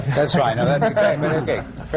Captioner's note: laughter